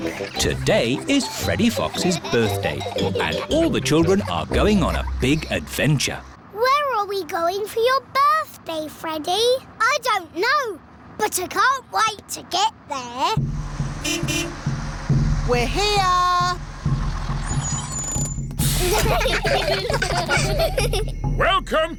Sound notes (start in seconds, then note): 13.5 horn beeps; 18.6 children giggling